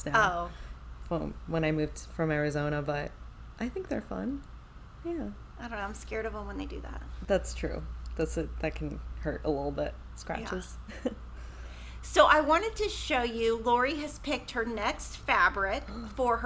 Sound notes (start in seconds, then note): 10.8 chuckles